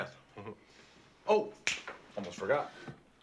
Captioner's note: chuckles; snaps fingers